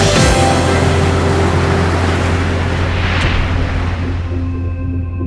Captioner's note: upbeat music continues; water splashing